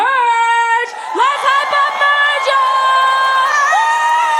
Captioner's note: cheering